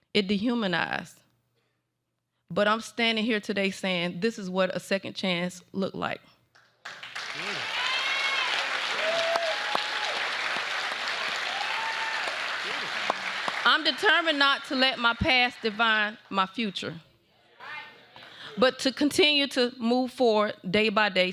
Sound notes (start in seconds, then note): 6.6 applause